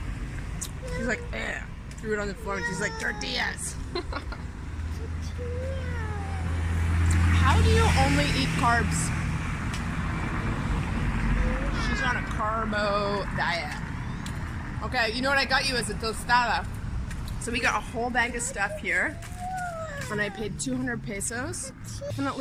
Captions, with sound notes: She's like (grunts), threw it on the floor, and she's like, "Tortillas!" (laughs). - Tortillas! - How do you only eat carbs? - Tortillas! - She's on a carbo diet. Okay, you know what I got you is a tostada. So we got a whole bag of stuff here and I paid 200 pesos.